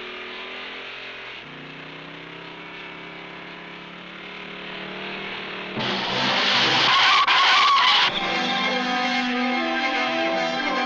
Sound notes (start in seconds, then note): 5.6 tires squealing; 5.8 dramatic instrumental music